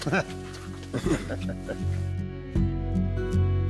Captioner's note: both chuckling; gentle country music